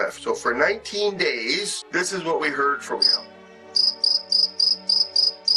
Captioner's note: cricket chirping